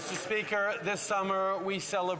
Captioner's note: some Applause